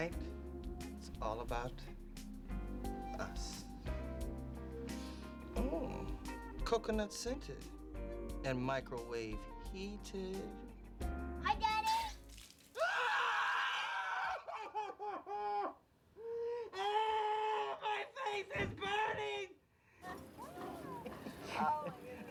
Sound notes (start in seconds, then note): 4.8 sniffs; 16.2 gasps; 16.2 screaming